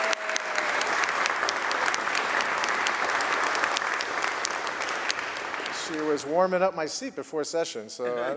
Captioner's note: applause